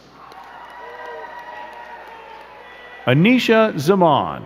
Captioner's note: crowd cheering and clapping